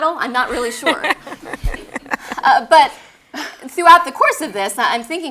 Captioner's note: laugh